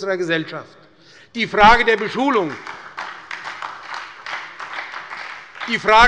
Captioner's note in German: Beifall bei der SPD